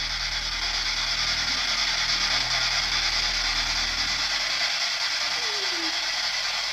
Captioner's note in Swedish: Skratt